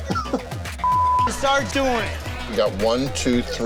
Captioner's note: chuckles heartily; beeps loudly